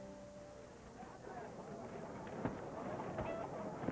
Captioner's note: chattering